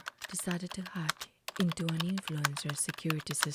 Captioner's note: keyboard Typing Sound Continues